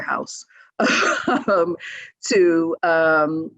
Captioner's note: laughs